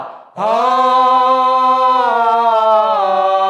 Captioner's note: all vocalizing